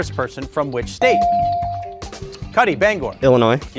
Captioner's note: bell ringing